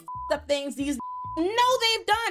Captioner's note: beep